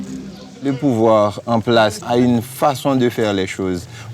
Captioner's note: French spoken audio